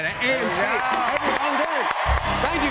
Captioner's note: cheers and applause